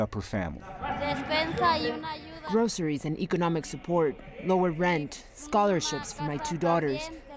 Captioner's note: through translator